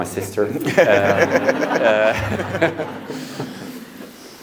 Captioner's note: audience laughs